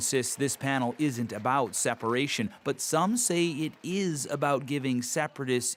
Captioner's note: applause